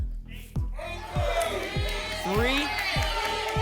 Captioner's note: audience shouting numbers